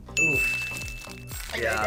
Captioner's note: bell dings